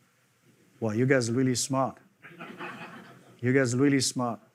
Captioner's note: audience laughing